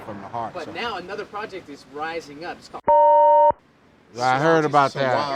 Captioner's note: beep